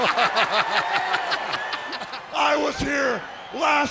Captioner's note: commentators laugh; audience cheers